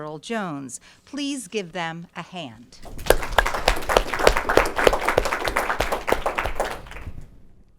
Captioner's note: applause